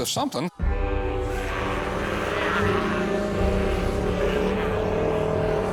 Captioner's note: growling noises